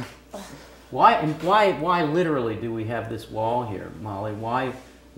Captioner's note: laugh